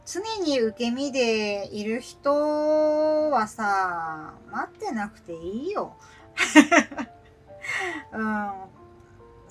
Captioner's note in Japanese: 笑い